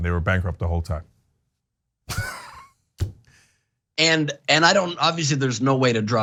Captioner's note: laugh